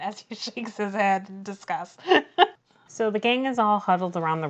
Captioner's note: laughs